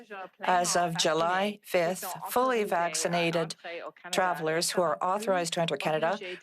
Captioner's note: speaking French